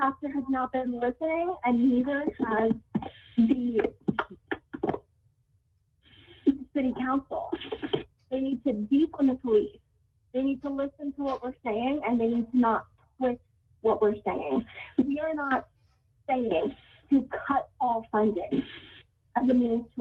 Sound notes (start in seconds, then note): 6.0 ~audio distortion~